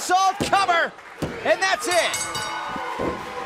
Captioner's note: bell ringing; crowd cheering